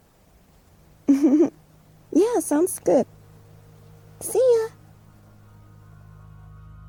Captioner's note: giggles